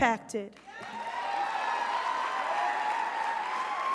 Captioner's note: crowd cheers